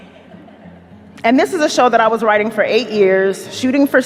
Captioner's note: audience chuckles quietly